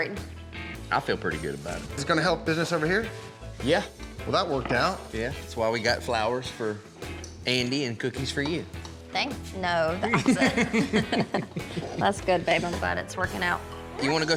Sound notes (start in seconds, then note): 10.0 laughs